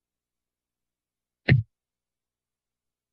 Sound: thuds

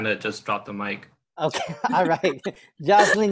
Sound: laughter

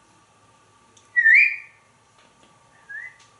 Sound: whistles

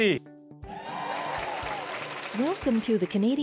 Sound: applause

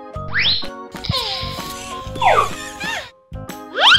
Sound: yawning

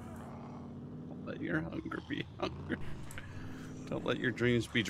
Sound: laughs

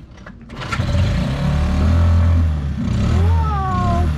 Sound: dinghy engine roars

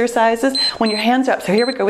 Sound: timer beeps

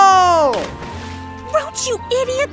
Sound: toxic waste splashes

